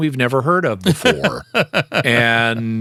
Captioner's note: laughter